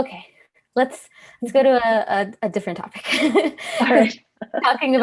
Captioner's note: laughs